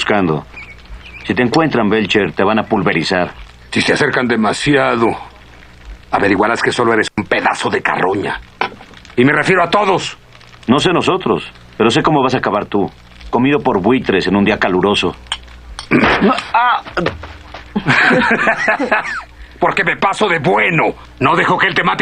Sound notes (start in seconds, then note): 17.6 laughing